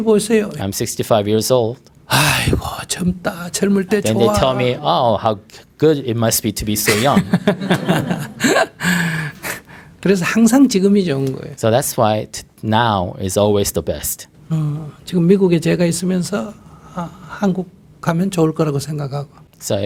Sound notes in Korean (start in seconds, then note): 6.9 스님/청중 웃음